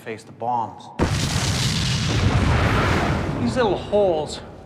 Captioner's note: bombs explode